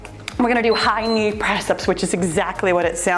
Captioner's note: timer beeps